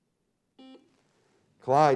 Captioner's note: beep